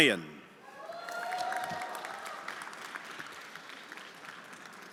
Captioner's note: everyone applauding